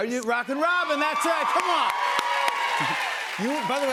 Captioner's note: cheers and applause